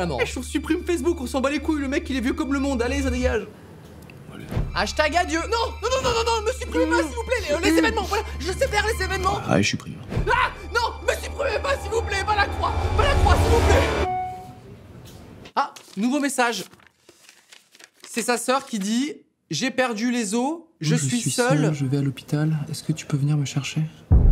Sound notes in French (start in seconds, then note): 14.0 notification messages